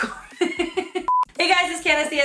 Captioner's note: laughs; camera beeps